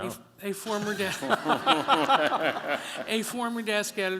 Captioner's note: laughter